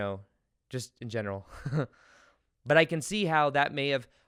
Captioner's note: laughs